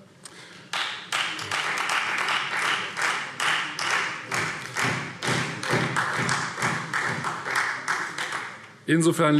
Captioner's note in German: Beifall Freie Demokraten